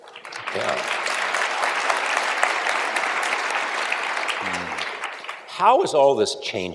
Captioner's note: applause